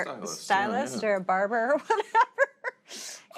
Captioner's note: laughs